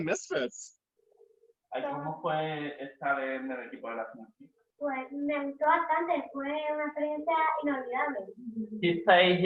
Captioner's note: speak in spanish